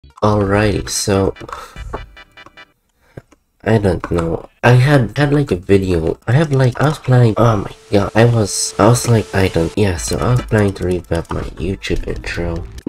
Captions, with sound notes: Alrighty, so... I dont know... I had- Had like a video... I have like [mouse clicking noises] I was planning- oh my go- I was... [slowly fading in TV static noises] I was like... [slowly fading in TV static noises] I dont... [slowly fading in TV static noises] Yeah, so I was planning to revamp my youtube intro...